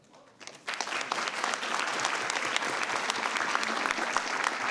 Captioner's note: audience applauds